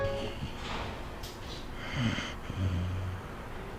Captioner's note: snoring